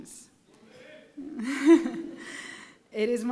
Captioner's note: laughing